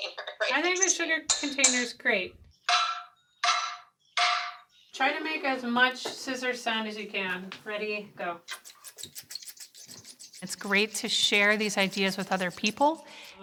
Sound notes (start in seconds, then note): 2.9 metal clanking; 8.5 scissors snapping